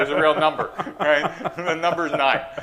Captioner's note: laughter